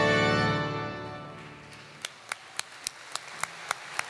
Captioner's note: applause